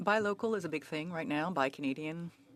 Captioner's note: speaking French